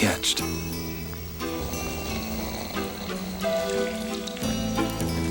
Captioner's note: gang member snores